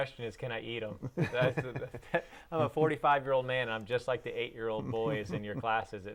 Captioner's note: laughing